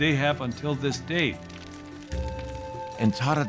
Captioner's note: fire crackling